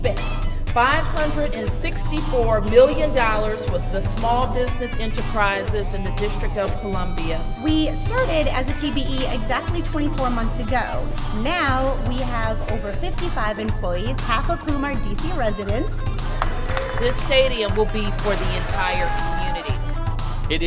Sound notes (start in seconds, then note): 16.3 applause